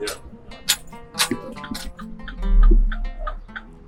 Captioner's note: metal clanking sounds